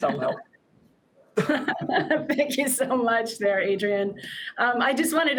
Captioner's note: chuckles